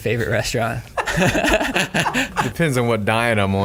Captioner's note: laughing